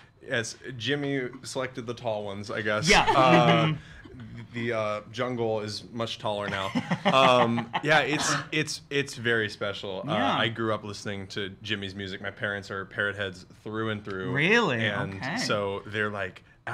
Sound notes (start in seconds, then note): 2.8 laughs; 6.4 laughs